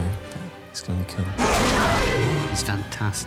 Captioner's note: growling